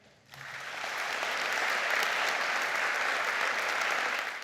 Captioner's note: audience clapping